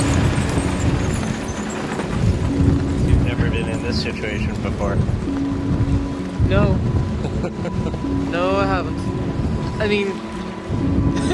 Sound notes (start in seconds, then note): 7.2 laughs; 10.3 laughs